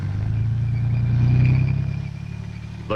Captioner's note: tank engine rumbling